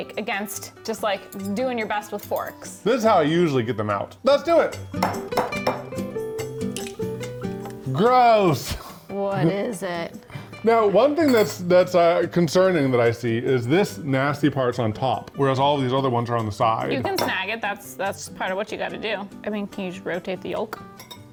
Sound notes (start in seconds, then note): 5.3 light music; 6.5 eggs clinking